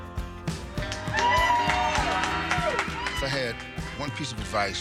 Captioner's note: audience cheers and applauds